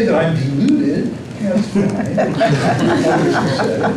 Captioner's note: laughter